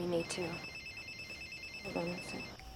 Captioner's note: phone ringing